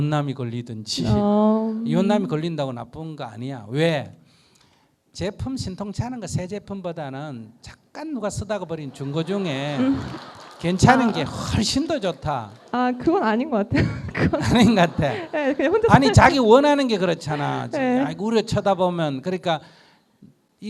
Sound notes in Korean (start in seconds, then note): 8.8 청중 웃음; 13.8 스님 웃음